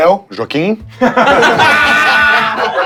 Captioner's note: risos